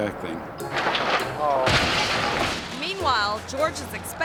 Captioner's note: yacht crashes